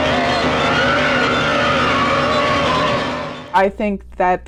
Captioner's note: screams; ghostly music